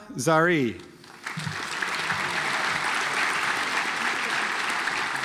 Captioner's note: audience applauds